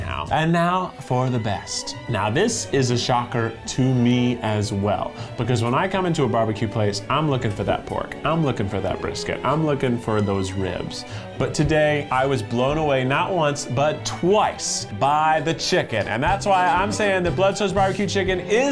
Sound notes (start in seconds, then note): none